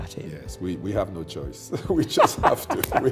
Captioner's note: laughs